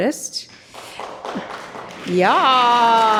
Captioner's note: audience applauding